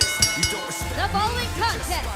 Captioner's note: bell ringing